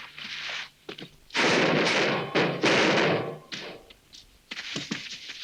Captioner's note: metal clanging